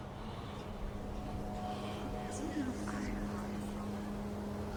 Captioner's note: voices echoing